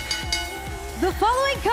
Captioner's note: bell ringing